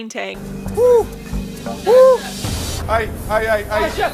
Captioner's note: Ramsay hooting